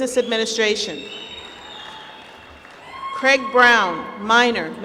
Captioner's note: applause